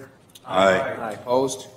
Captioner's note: multiple voices